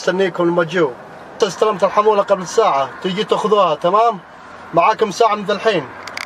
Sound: man speaking Arabic continues

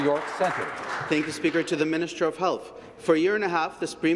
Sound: applause

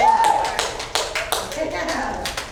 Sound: cheers and applause

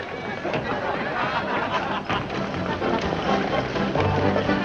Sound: people chatting loudly; upbeat music

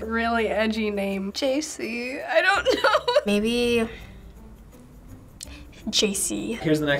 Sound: laughs

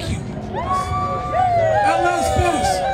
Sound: crowd cheering

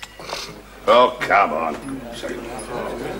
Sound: angry murmuring

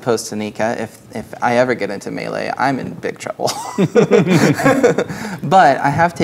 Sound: laughing

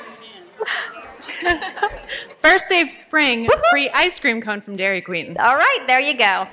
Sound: laughs

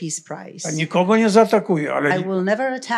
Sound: foreign language

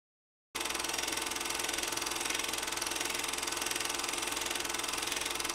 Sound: projector clicking

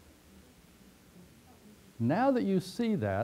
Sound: pause

